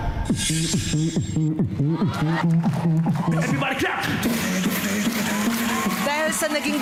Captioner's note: beatboxing